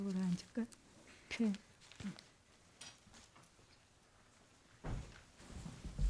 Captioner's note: speaking in Korean